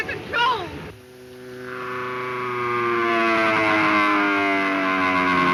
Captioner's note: airplane engine roaring